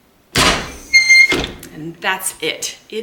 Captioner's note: press hinge squeaking